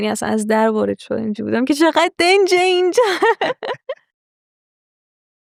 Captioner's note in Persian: خنده